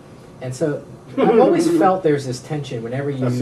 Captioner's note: laughs